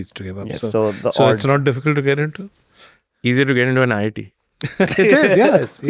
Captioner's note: laughs